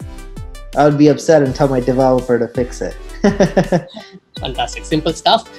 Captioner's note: laughs